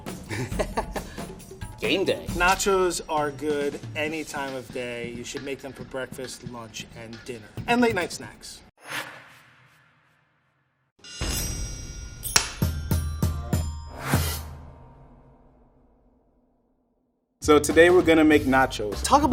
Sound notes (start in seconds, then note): 0.2 chuckling; 8.8 air whooshing; 11.1 metal vibrating; 11.2 timed chiming